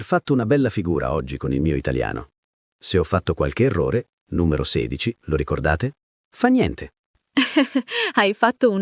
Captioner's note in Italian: risate